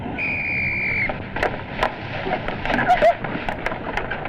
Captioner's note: whistle blows